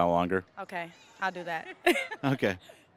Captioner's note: laughing